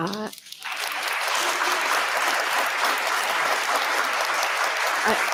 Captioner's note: audience applauding